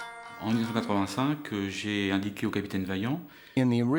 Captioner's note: speaks in foreign language